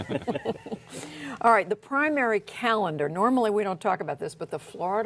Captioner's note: laughter